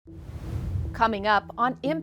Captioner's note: pensive music; logo whooshes